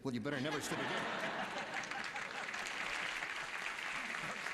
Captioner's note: applause